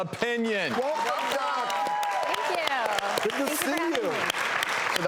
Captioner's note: audience applauds